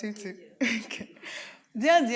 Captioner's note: laughing